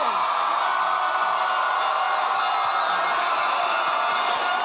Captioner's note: audience applauding